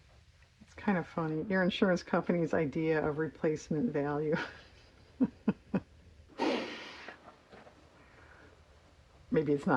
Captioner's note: laughs